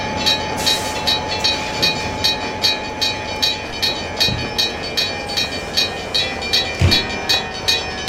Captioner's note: airbrake hissing